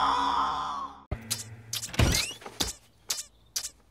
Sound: Frodo screams

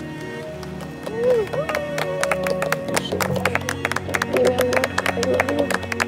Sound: upbeat music; people applaud and cheer

